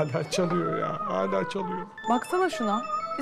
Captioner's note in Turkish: Telefon zili